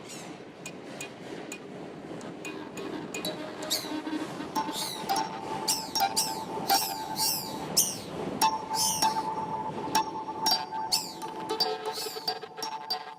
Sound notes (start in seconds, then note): 0.0 squeaking, subway rumbling; 2.6 screeching, electronic tones